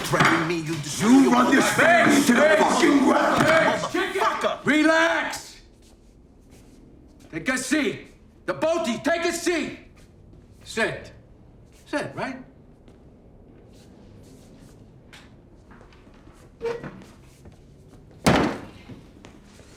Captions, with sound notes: - You threatening me, you disloyal- - You've run this family into the fuckin' ground! - Vince, Chickie- - Motherfucker! - Relax! Take a seat! The both of you, take a seat! Sit, sit, right? (feet shuffling) (chair screeching) (chair thudding)